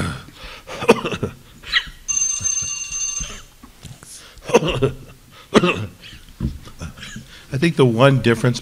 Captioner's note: coughing